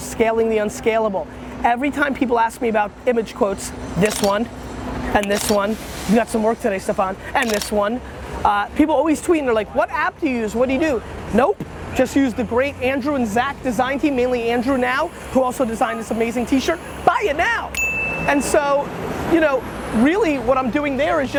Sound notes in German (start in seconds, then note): 4.0 Kamera klickt; 7.4 Kamera klickt; 17.7 klingelt